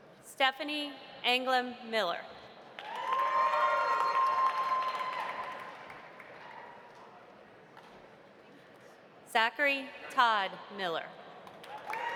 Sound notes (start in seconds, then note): 2.8 audience applauding; 2.8 audience cheering; 11.6 audience applauding; 11.8 audience cheering